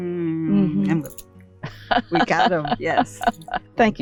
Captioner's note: laughs